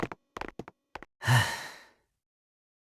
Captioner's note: disapproving silence